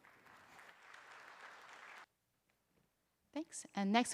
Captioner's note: applause